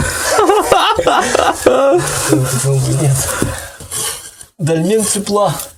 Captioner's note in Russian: смех